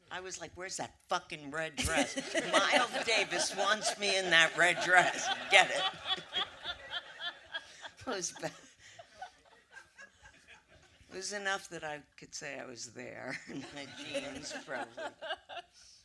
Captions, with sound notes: I was like, "Where's that fucking red dress. Miles Davis wants me in that red dress, get it." [audience laughter] It was bad. It was enough that I could say I was there. In my jeans, probably.